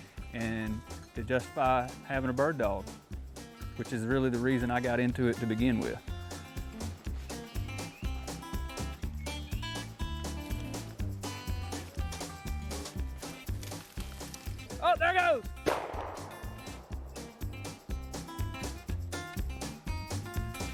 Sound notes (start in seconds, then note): 6.7 leaves rustling; 9.7 birds singing; 15.6 gun shot